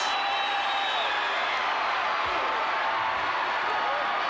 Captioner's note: crowd cheers